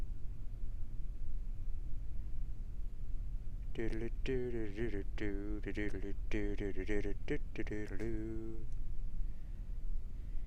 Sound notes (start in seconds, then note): 7.5 bad humming again